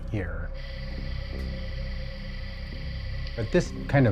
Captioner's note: crickets chirping on audio playback